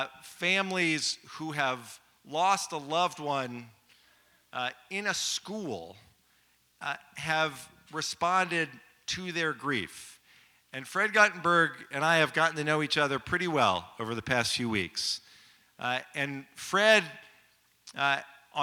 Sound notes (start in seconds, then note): none